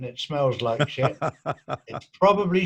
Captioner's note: laughing